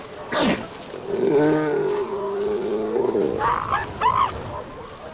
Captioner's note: barks and grunts